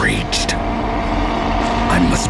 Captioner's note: rugido